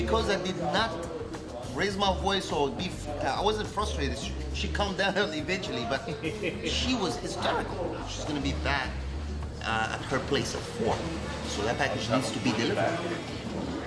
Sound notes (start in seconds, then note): 5.9 laughs